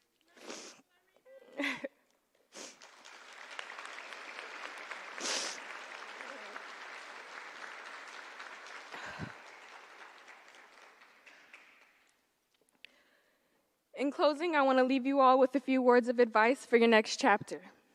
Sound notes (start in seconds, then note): 2.7 applause